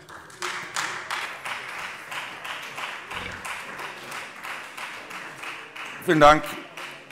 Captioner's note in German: Beifall Freie Demokraten